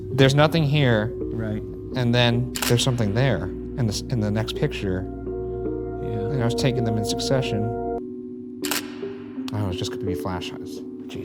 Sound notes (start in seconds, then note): 8.6 camera clicks